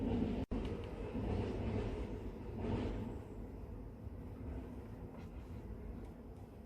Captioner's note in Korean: 서걱서걱